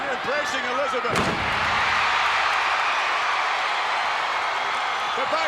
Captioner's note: audience cheering